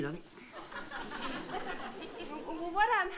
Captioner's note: laughter